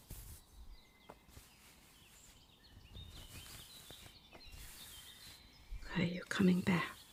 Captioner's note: more bandaging sounds